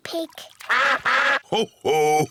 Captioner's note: all quack